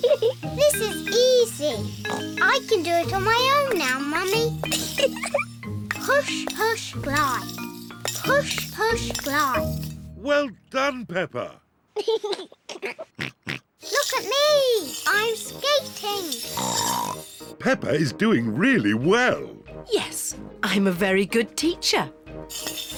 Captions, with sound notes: This is easy! (SNORTS) I can do it on my own now, Mummy. (GIGGLES) Push, push, glide. Push, push, glide. -Well done, Peppa! -(GIGGLES) Look at me! I'm skating! (SNORTS) Peppa is doing really well. Yes, I'm a very good teacher.